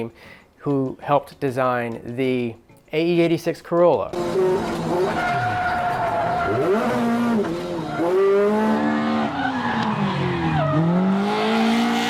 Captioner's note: engine racing